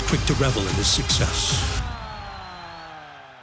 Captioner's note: crowd cheering